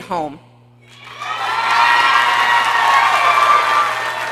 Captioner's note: people cheering